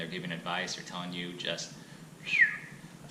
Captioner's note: whistles